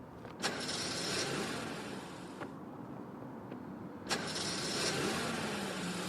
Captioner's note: car engine struggles to start